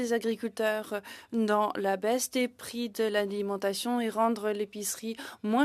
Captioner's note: speaking in French